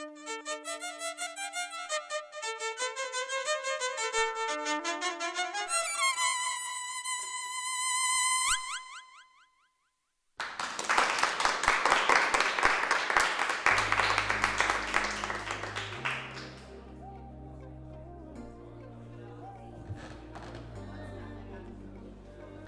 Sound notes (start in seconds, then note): 0.0 poignant violin music continues; 10.4 attendees clapping; 16.4 gentle background music